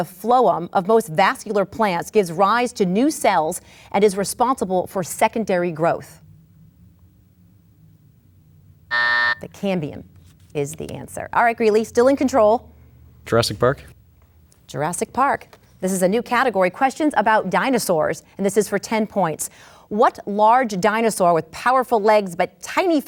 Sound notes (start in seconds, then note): 8.9 buzzer sounds